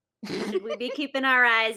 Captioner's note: laughs